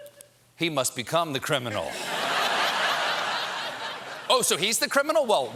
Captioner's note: laughter